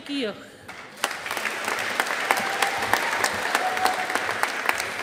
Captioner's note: audience applauding